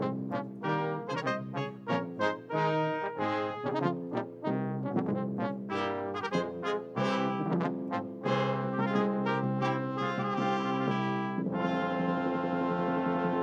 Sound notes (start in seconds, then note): none